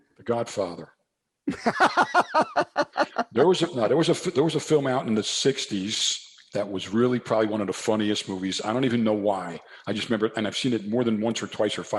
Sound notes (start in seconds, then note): 1.4 laughs